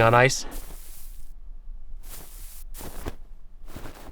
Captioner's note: ice crunching